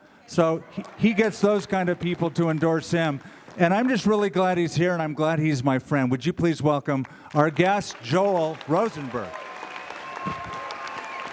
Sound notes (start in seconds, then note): 9.5 applause